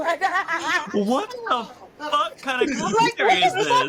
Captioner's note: laughing